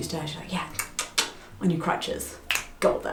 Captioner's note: tongue clicking; fingers snapping